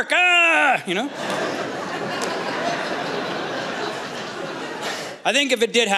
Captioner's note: laughter